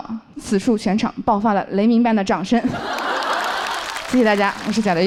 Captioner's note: thunderous applause erupts from the audience